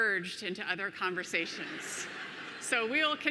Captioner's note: audience laughing